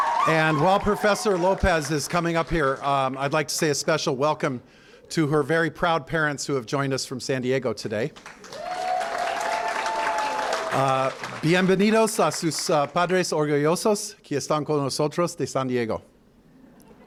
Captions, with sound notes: And while Professor Lopez is coming up here, I'd like to say a special welcome to her very proud parents who have joined us from San Diego today. [APPLAUSE] [SPEAKING SPANISH]